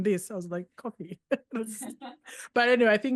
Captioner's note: laughs